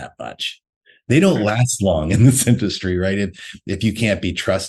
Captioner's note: laughs